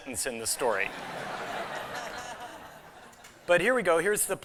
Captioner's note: laughter